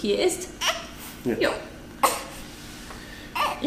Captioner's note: baby complains